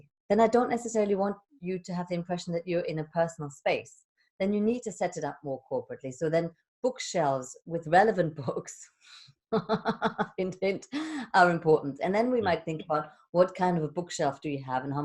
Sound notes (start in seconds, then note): 9.6 laughs